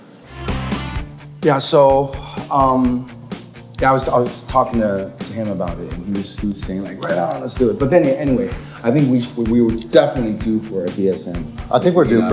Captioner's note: chatting